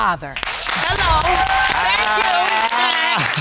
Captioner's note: audience applauding